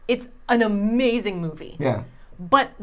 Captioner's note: none